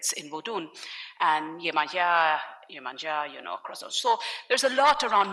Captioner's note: speaking in foreign language